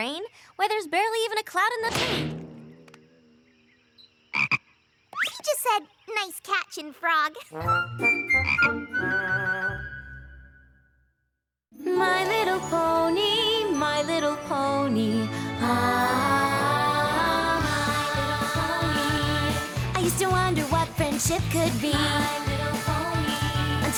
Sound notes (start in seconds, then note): 4.4 croaks; 8.4 croaks